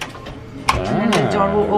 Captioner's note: latch clicks